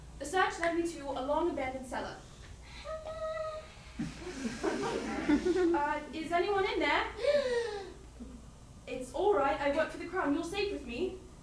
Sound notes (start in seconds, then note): 2.6 whimper; 7.2 sharp inhale